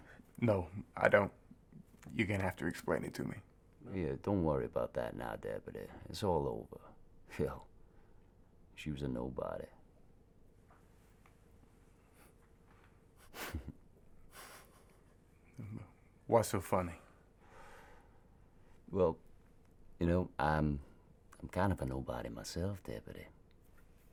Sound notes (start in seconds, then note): 13.2 Marty chuckles; 15.6 mutters